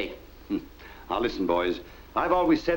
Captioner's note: chuckles